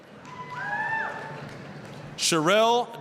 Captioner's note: applause, cheering